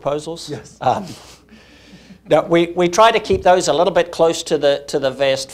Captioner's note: laughs